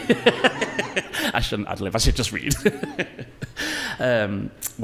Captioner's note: laughs; laughs